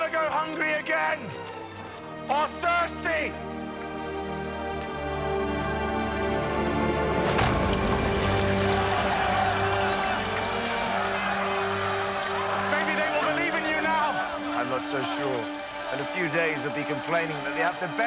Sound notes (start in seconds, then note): 8.8 cheering